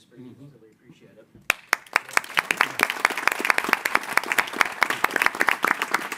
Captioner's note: audience applauding